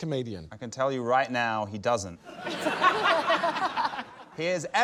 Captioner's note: laughter